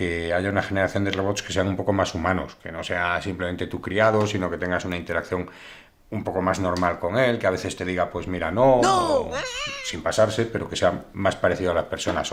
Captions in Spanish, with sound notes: una generación de robots que sean un poco más humanos. Que no sea simplemente tú criado, sino que tengas una interacción un poco más normal con él, que a veces te diga: "pues mira, no". [Voz en off] ¡No! Sin pasarse, pero que sea más parecido a las personas